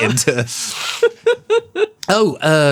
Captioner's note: giggling